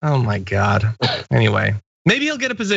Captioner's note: laugh